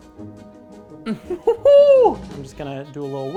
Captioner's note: laughing